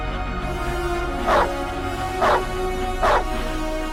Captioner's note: dog barking